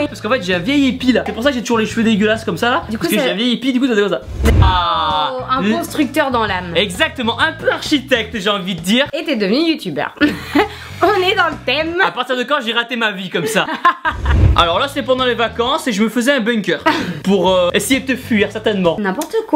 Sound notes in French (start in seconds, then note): 10.2 Rires; 13.4 Rires